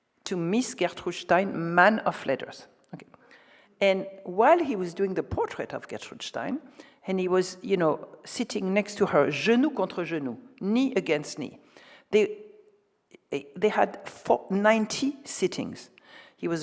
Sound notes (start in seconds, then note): 9.4 speaks French